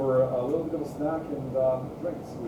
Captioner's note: speaking faintly